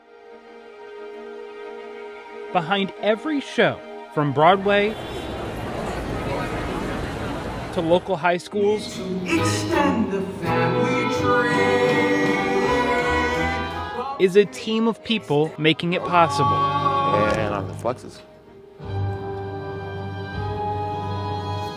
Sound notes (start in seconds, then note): 0.0 gentle music; 4.5 people chattering; 4.8 vehicle whooshing; 18.8 exciting music